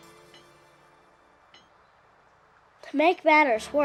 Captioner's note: light country music; train spike hammering